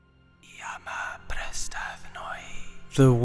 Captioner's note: whispers